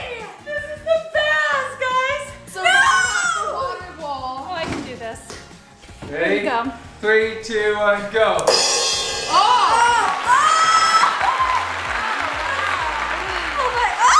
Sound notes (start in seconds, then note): 8.4 drum banging; 9.9 applauding